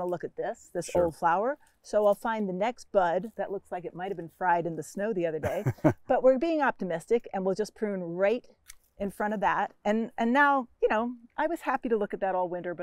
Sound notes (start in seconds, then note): 5.4 chuckles; 8.6 scissor snaps